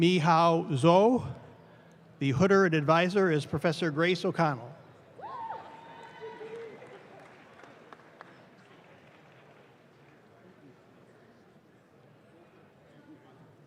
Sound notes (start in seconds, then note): 5.9 audience claps